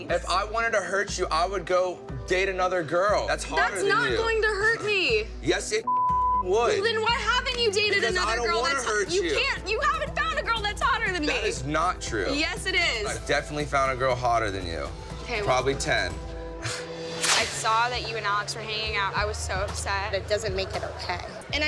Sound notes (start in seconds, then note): 5.8 beep; 16.9 scoffs